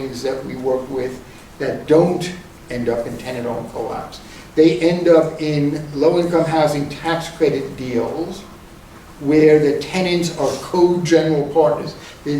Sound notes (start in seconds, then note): none